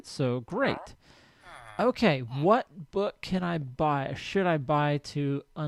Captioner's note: chattering continues